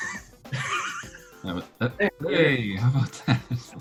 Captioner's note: laughter